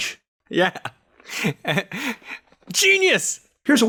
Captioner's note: laughter